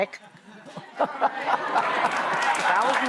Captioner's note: laughter